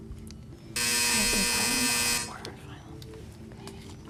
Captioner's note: buzzer; whispering